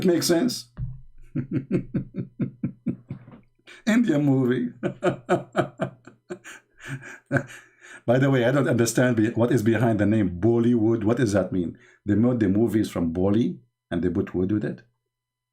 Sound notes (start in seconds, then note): 1.2 Ketawa; 4.6 Ketawa